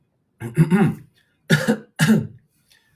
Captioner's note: coughs